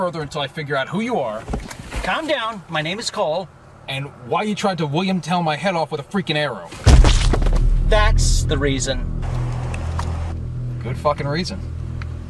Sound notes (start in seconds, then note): 6.8 bird poop splattering on windshield